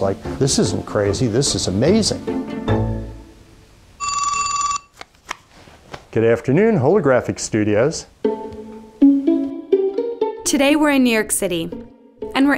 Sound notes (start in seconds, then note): 4.0 telephone ringing; 8.2 plucking music